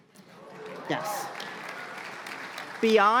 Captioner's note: applause